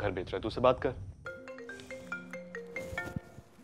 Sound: cell phone ringing

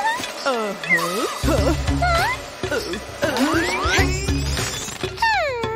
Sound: groans

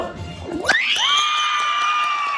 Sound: cheers

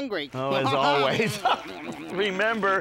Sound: laughing

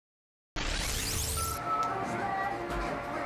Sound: upbeat electronic music; static crackles

